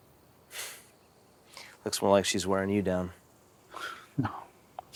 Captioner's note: laughs